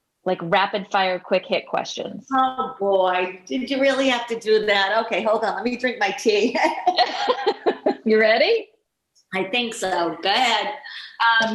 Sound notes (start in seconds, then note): 6.6 laughing